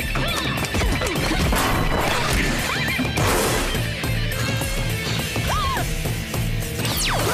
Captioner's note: fighting noises